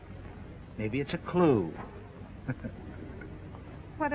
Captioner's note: laugh